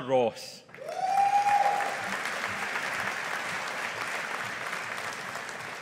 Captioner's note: audience applauding